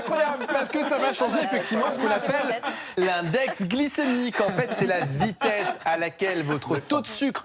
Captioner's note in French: rires; rires